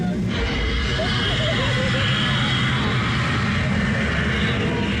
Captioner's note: fire roaring